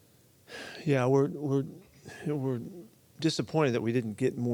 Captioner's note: sighs